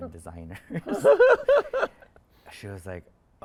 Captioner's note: interviewer laughs